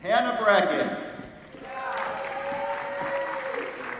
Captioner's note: applause